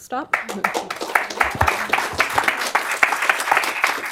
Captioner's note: applause